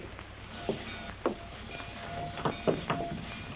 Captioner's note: bells ringing